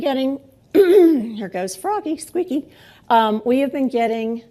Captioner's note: clears throat